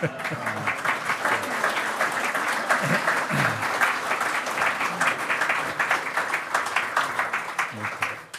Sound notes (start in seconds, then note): 0.0 hearty laughing; 0.0 loud clapping